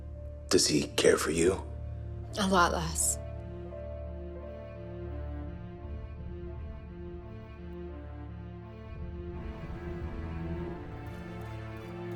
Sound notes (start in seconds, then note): none